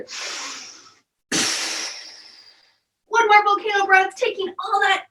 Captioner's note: deep breathing and puffing out